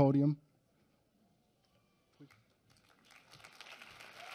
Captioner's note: applause